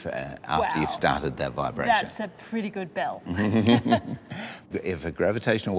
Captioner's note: chuckles